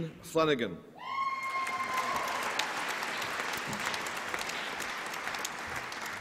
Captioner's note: applause and cheering